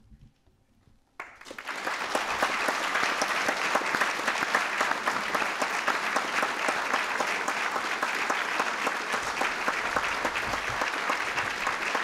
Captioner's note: applause